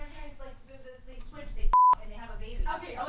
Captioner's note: beep